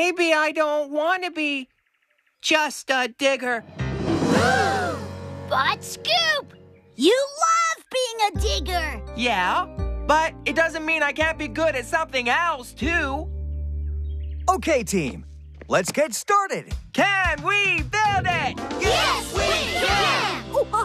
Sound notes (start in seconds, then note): 4.2 all Gasp